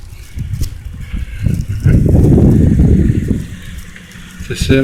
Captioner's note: wind